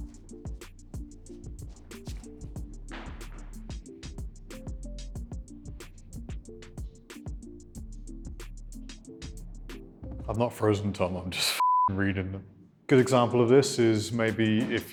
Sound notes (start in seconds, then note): 2.8 stomping; 11.6 beep